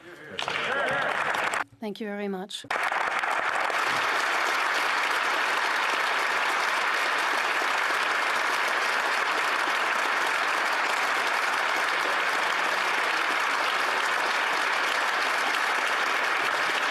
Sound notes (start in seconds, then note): 7.9 speaking French; 10.2 applause